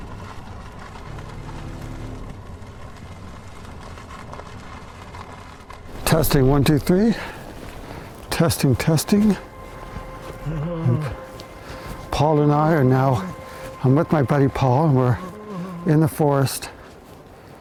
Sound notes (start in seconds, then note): 10.4 groans